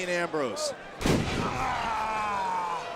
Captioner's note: body thuds; crowd booing